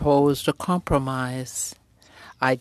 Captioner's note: speaking french